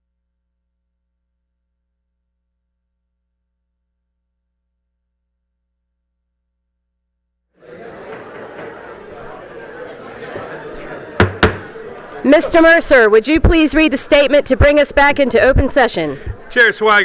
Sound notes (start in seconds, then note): 7.6 group chatter; 11.1 gavel being hit against dais